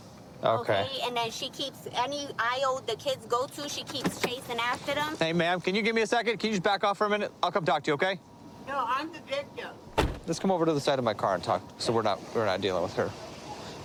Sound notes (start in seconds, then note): 9.9 car door closes